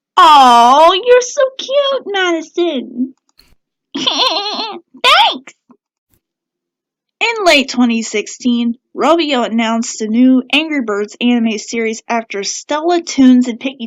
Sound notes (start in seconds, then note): 3.9 giggles